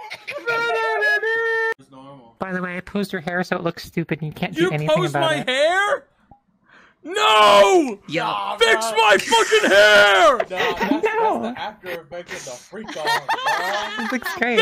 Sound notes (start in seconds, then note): 0.0 laughs; 6.7 inhales; 12.3 laughs